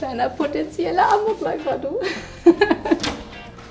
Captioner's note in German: Kichern